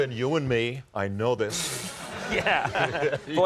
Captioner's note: laughter